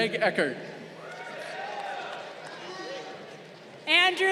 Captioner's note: crowd cheering